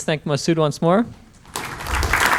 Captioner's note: applause